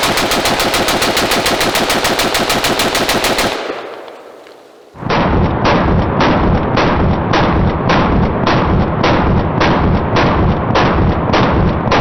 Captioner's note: gunshots